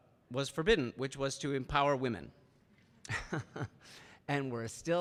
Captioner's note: laughs